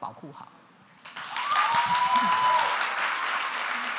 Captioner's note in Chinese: 掌聲